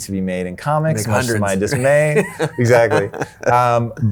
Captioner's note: chuckles